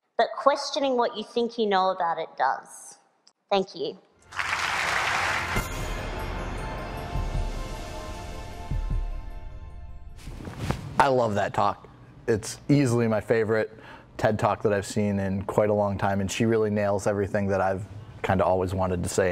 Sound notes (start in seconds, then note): 4.2 applause